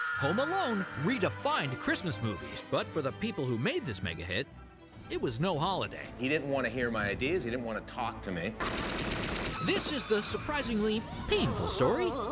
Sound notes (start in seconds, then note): 8.6 gun fires